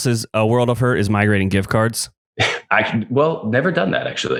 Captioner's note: laughs